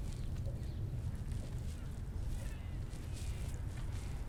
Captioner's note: birds calling